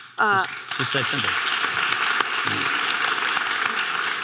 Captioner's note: audience applause